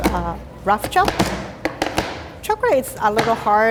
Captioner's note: knife clacking